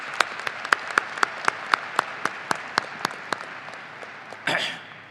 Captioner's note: audience applauding